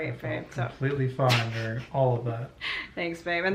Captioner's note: laughter